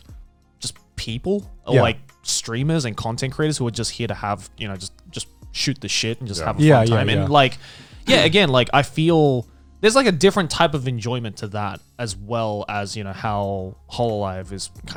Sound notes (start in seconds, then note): 6.3 affirmative murmuring